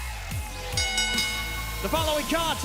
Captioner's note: bell ringing